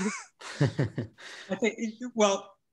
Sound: both laugh

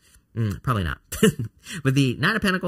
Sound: laughs

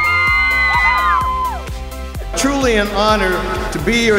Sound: cheering

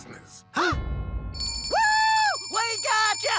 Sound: both gasp

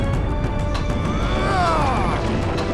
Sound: grunting

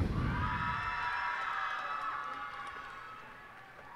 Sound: cheers and applause

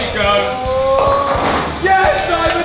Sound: lads cheering

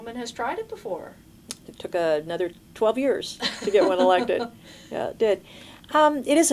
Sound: laughter

